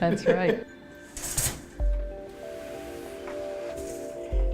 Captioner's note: loom clanking